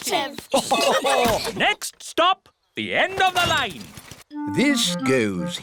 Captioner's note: laughter